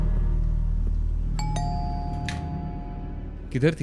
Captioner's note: door bell